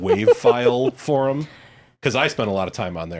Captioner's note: laughs